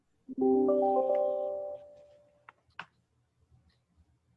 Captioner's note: notification dinging